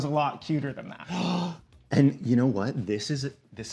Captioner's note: gasps